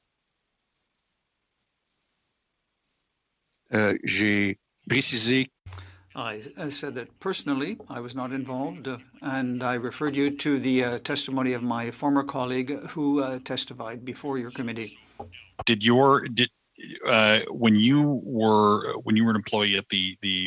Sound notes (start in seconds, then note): 10.4 speaking French